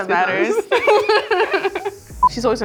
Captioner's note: laughing